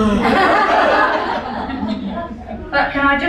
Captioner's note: laughing